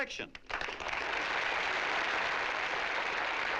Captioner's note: applause